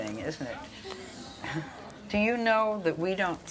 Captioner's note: audience murmurs